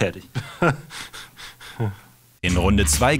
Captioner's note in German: Kichern